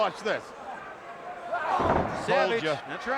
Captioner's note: wrestler screams